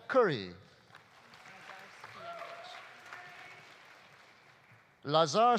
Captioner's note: audience applauding